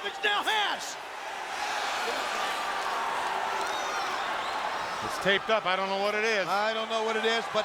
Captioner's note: applause